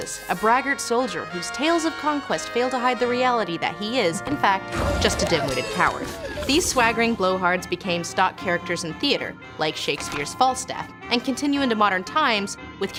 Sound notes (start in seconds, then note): 4.7 monster roars; 4.7 screams